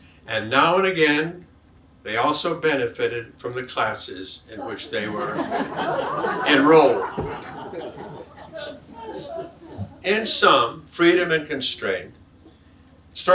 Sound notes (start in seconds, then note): 6.5 audience laughs